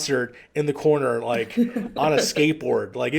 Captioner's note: laughs